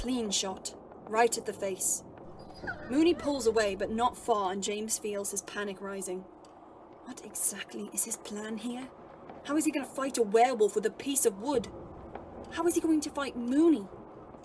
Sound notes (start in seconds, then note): 2.1 Moony whines